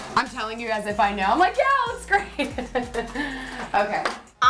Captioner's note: laughs